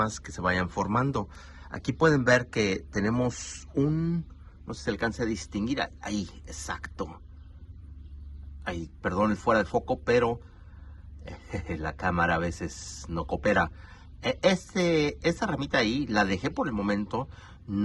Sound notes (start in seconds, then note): 11.2 haha